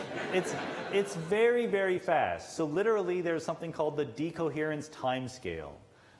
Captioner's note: laughter